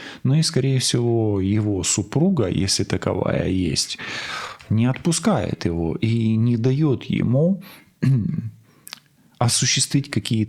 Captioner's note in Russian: откашливается